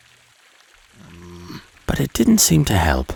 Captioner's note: Pharaoh grunts